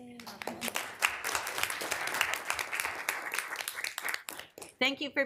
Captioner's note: attendees applauding